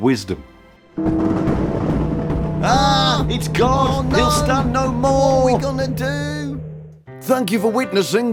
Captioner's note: loud knocking